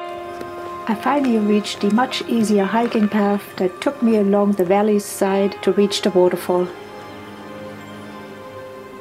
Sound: birds singing

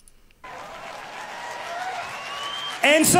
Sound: audience cheers

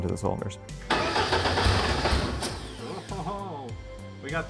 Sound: engine sputtering

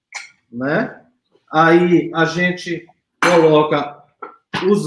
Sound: speaks portuguese

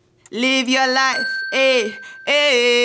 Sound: bell dings

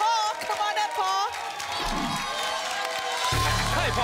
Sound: applause and cheering cont

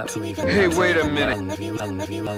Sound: reversed audio

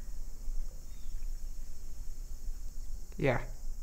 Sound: insects chirping

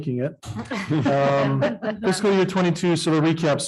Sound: audience laughing

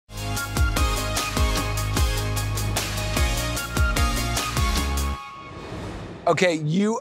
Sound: transition whooshes; upbeat music

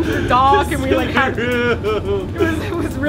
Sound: boo-hooing

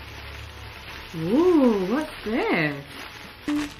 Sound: unwrapping off-screen

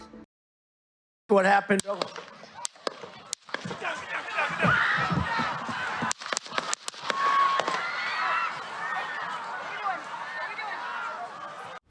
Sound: ban gbang pew pew *sound

